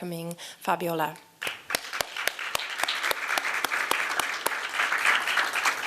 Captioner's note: applause